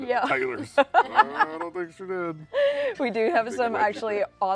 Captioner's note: laughs